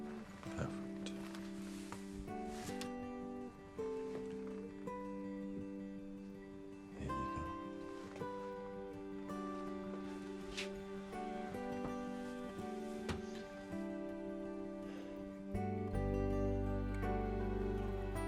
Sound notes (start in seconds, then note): 2.0 gentle music; 8.5 birds chirping; 8.5 gentle music